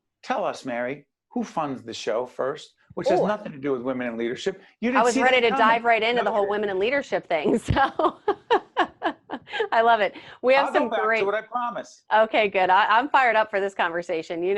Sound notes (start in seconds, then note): 7.4 laughing